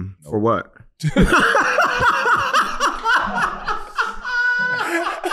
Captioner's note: laughing